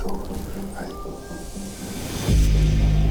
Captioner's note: elk bugle